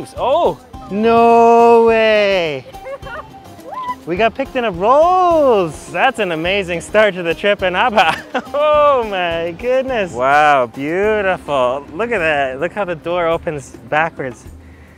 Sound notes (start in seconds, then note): 2.4 laughs